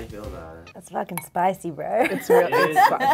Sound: laughing

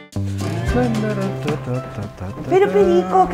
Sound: humming

